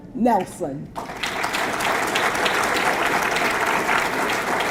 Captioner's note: audience clapping